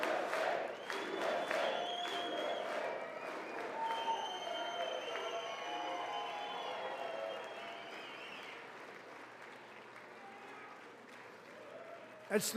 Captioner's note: applause